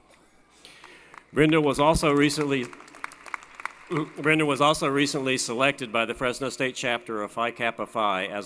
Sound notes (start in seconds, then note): 2.7 applause